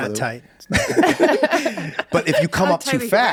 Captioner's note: group laughs